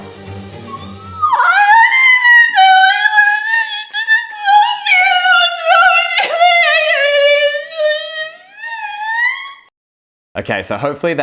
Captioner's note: crying and saying something gibberish